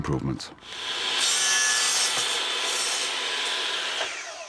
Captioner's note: saw running